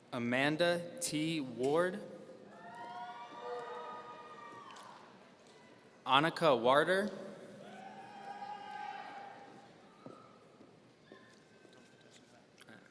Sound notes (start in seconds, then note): 2.5 audience cheering; 7.6 audience cheering